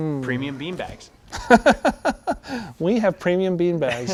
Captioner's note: laughs